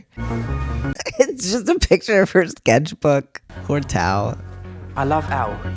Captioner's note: laugh